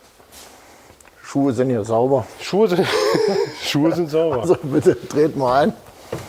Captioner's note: laughs